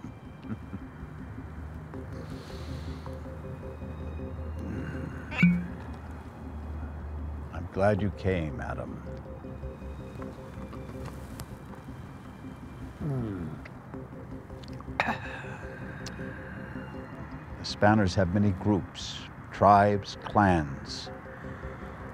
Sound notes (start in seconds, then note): 0.4 laughs; 5.3 cognac bottle opens